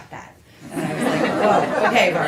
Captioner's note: laughter